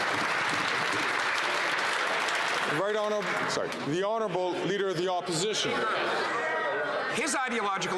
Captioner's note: some Applause